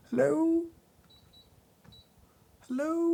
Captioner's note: scale beeping